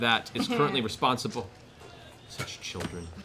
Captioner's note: chuckles